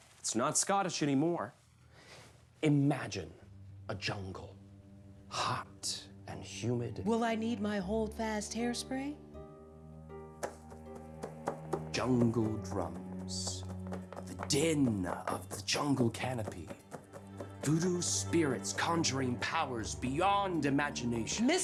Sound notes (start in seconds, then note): 4.4 soft music; 10.3 tapping